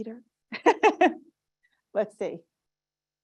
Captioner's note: laughs